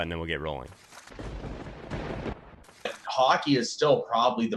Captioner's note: thunder rumbling